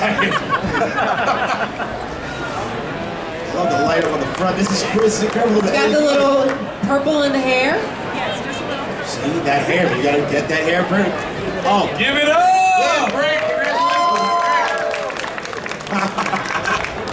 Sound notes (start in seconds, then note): 0.1 laughing; 12.2 audience cheering